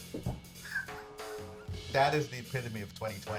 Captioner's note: giggles